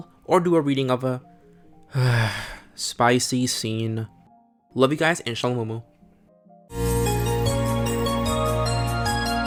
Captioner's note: sigh